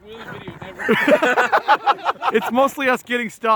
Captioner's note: group laughing